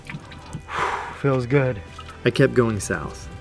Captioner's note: gasp